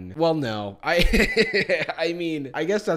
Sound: laughs

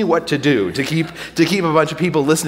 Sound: audience laughing

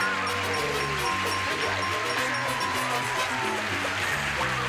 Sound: cheers and applause

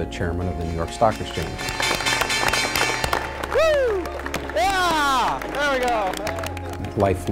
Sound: bell rings

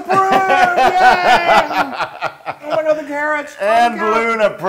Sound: laugh

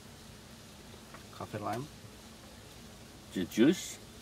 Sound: chef speaking

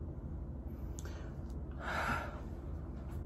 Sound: sighs in relief

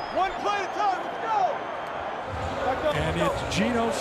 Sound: speakers blaring

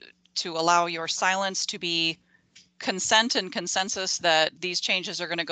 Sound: garbled feedback in audio

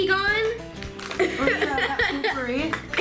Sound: laughing

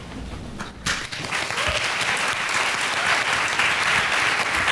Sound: applause

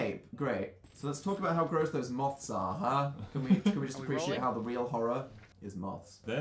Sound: laughs

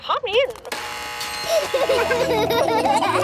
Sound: gates buzzing; kids laughing

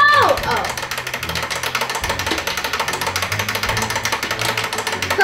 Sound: timer ticking

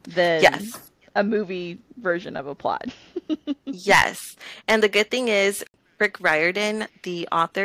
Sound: laughter

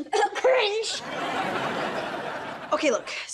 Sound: coughs

